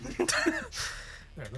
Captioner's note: laughing